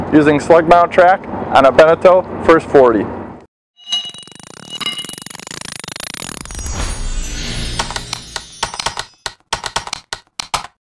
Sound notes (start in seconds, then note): 3.8 electronic effects; 7.7 typing